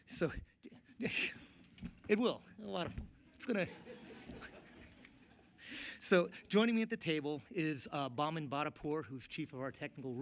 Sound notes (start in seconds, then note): 3.6 laughter